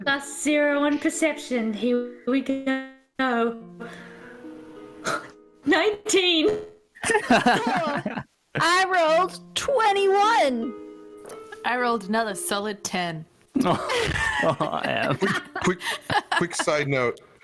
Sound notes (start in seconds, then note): 7.0 laughs; 13.6 laughs